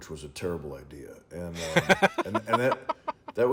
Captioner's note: laughing